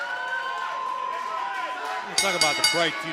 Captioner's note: bell ringing